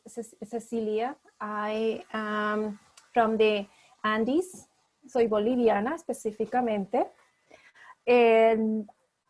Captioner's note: speaking spanish